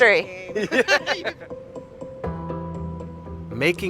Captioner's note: Baratunde laughing quickly